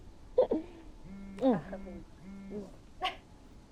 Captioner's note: Stef giggles; phone buzzing